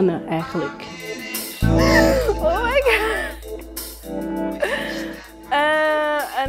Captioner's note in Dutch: lacht